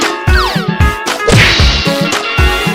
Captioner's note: crash!